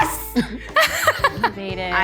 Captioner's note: Zach and Rosanna laughing